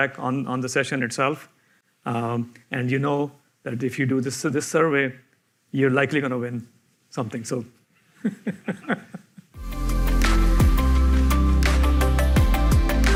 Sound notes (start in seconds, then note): 8.2 he laughs